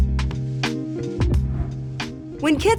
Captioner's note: air whooshing